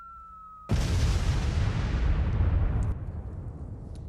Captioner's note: bomb crashes